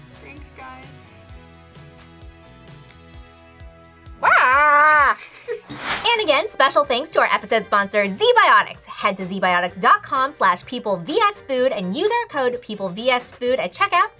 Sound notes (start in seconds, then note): 4.7 laughs